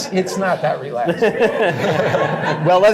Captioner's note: laughter